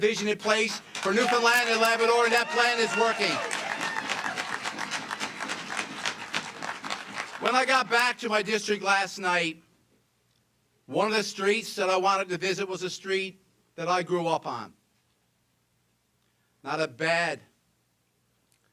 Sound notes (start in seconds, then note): 6.7 cheers and applause